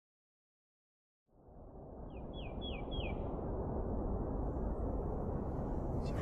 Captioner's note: birds chirping